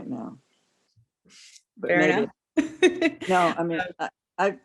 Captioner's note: laughter